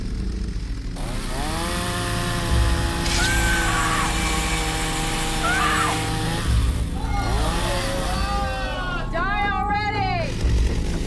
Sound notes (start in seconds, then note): 0.9 chainsaw revs; 1.2 Abby screams; 6.7 crowd shouts